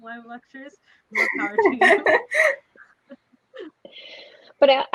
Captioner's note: laughing